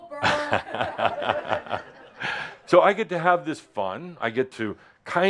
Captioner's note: chuckles